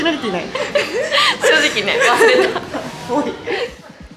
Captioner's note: laughs